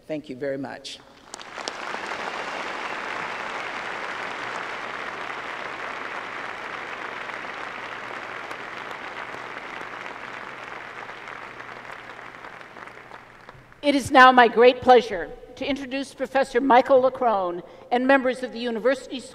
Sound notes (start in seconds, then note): 3.9 applause